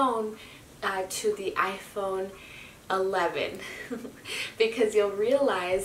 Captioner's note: laughs